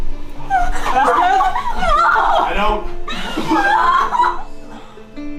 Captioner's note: crying